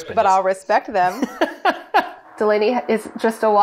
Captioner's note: laughing